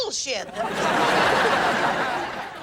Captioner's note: audience laughing